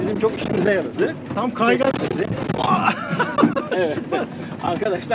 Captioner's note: laughings